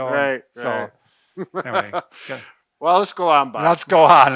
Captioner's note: laughs